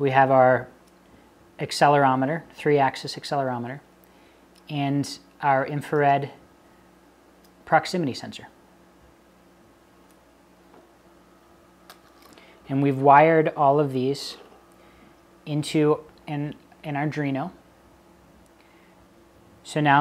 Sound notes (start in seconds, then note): 10.5 pause